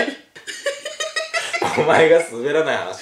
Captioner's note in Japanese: 笑い声